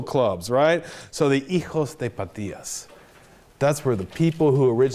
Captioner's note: speaks Spanish